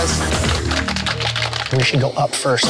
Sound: audience applauding

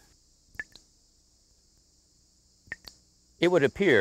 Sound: water dripping

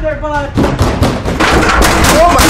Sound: porta potty shakes and rumbles

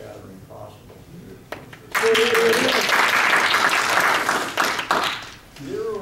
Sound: audience applauding

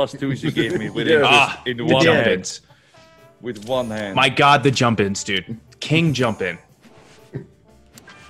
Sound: laugh

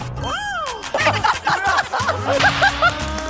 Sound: they burst into laughter

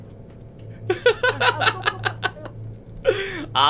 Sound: evil laugh

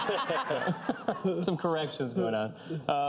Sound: audience laughs

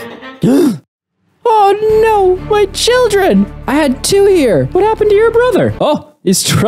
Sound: gasp

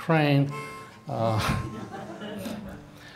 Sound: audience laughing

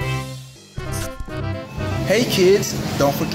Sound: scratching

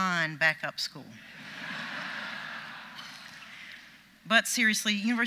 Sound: audience laughs

